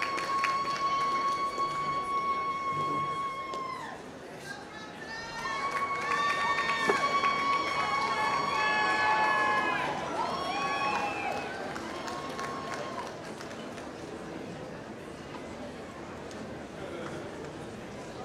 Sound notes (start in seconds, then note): 0.0 applause